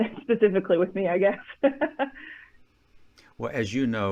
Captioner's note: chuckling